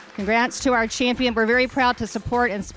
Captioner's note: applause